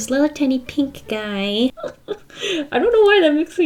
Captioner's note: giggles